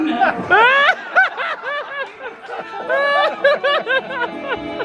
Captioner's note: laughing